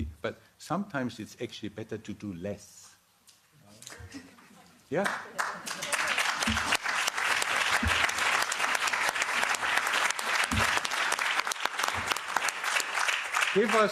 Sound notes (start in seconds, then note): 8.0 applause